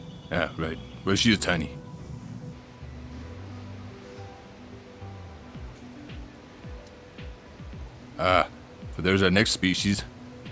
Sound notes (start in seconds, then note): 2.9 light wind blowing